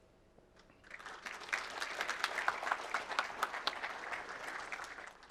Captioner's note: applause